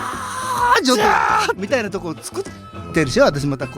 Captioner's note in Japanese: 叫び声